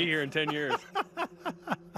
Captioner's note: laughing